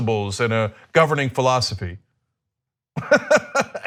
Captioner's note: laughter